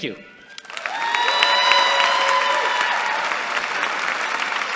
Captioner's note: cheering